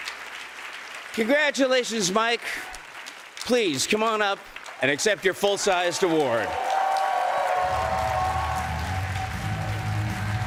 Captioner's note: cheers and applause